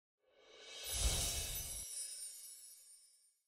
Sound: bells chime

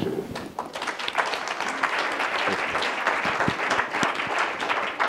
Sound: audience applauding

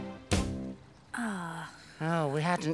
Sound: Tula sighs

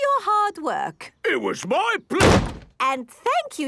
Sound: slams

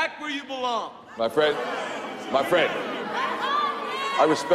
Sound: crowd jeering

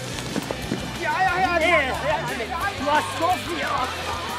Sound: indistinct shouting

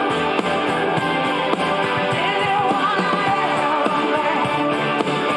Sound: crowd cheering and applauding

